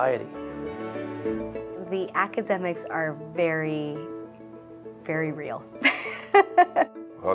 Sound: laughs

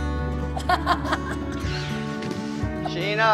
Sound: laughing

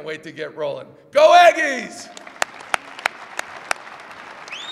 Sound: applause

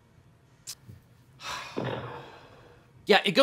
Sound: host sighs deeply

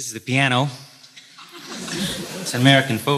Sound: audience laughs

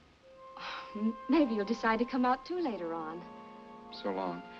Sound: sighs

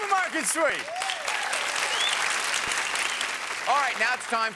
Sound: applause

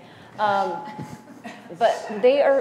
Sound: laugh

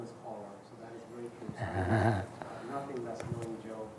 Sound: laughs

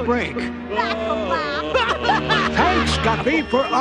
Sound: laughing

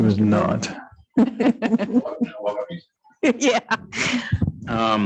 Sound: laughs

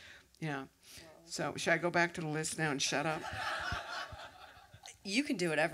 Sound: laughter

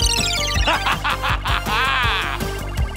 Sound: laughing

